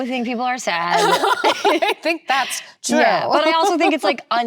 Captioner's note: laughs